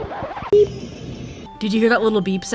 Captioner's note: beep sound